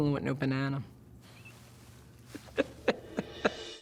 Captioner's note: laughs